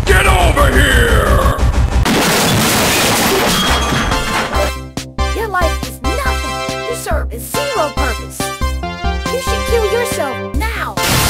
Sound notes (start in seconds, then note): 2.0 loud Metal Bang